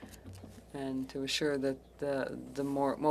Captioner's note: speaking French